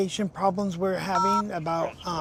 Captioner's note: phone buttons beeping